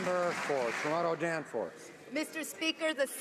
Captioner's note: some Applause